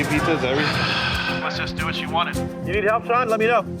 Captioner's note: sighs